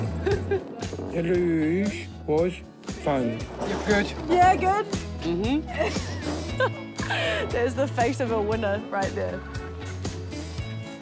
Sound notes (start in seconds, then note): 0.1 laughs; 5.6 laughs